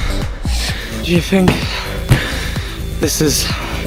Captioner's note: heavy, exhausted breaths; out of breath